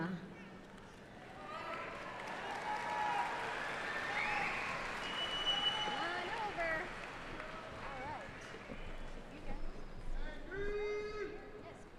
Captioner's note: applause